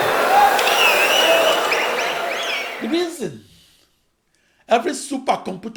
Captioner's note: wild applause and cheering for 22 seconds